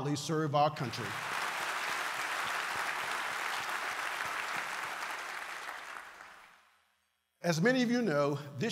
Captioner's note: applause